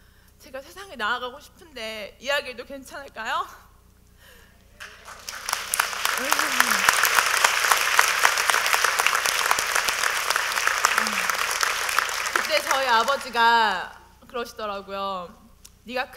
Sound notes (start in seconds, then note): 4.8 audience : Applause